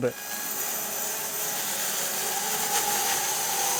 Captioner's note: sawmill sawing